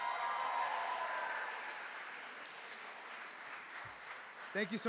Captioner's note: cheering